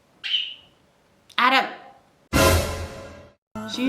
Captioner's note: another cringey suspense noise